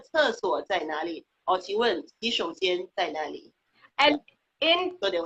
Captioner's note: speaking foreign language